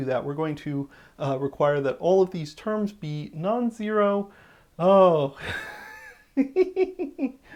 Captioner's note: the giggling of having made a terrible mistake